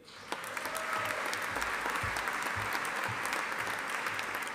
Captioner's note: audience applauding